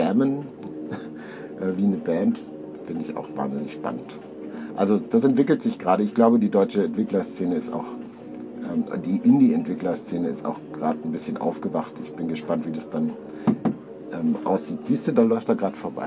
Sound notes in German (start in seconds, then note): 13.5 klopf klopf